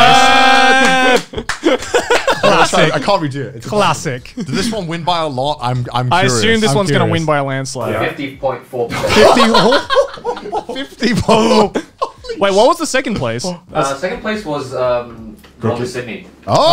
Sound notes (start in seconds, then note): 9.0 everyone laughs